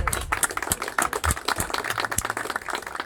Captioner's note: applause